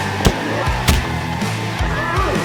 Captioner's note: kick to the gut